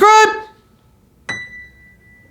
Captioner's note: dings